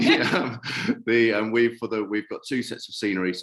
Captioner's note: laughter